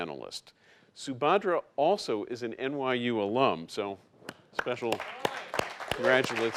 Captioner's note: clapping